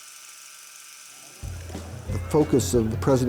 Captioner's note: movie projector whirls and whines